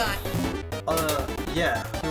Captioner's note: bonk